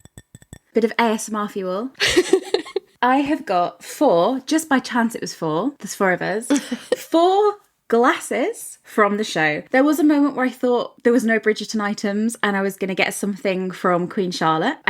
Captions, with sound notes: - Bit of ASMR for you. (laughing) I have got four, just by chance it was four. There's four of us. Four glasses from the show. There was a moment where I thought there was no “Bridgerton” items and I was gonna get something from “Queen Charlotte.”